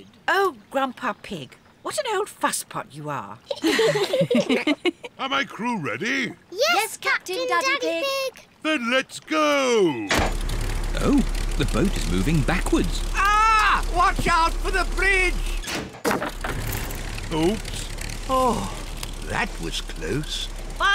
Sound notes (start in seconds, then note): 3.5 all giggle; 10.1 lever clunks; 16.0 crunching